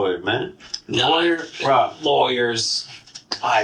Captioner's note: cynically